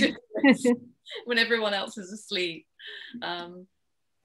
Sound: laughs

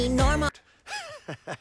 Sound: lowkey laugh

